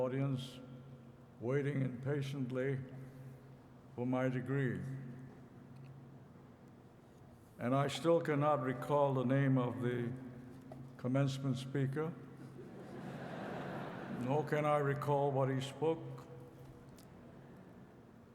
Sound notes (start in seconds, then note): 12.4 laughter